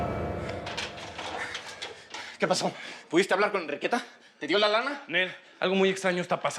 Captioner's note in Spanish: ruido al abrir la puerta